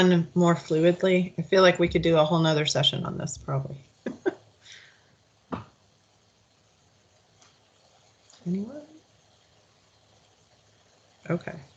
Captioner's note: laughes